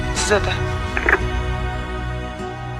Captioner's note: phone hangs up